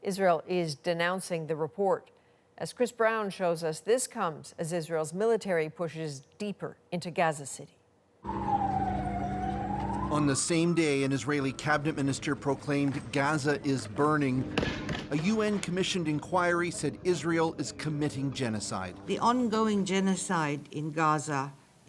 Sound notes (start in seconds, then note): 10.1 sirens